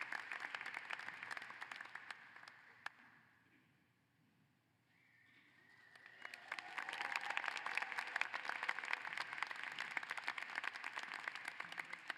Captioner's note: applause